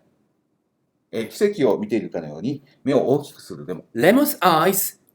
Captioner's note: speaking Japanese